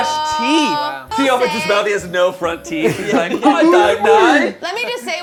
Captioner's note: overlapping chatter